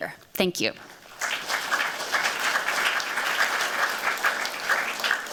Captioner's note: applause